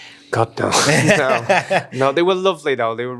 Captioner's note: interviewer laughs